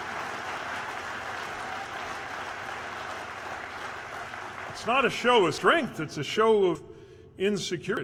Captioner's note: cheers/applause